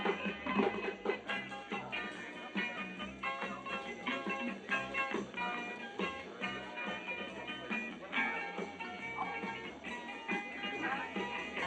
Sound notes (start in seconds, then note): none